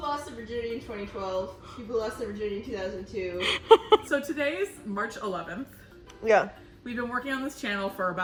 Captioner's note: laughs